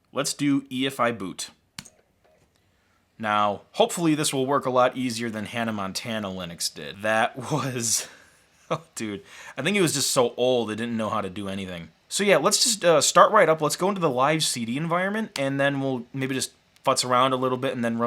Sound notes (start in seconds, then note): 8.6 laughs